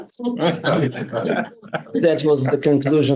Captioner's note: group laughing